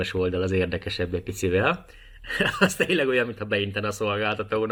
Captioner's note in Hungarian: nevetés